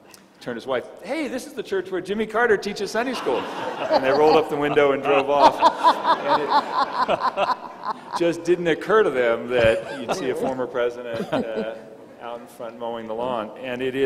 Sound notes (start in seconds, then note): 5.9 all laughing